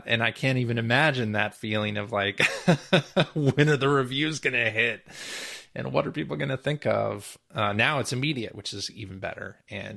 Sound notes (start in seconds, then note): 2.7 laughs